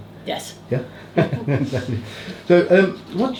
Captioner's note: laughs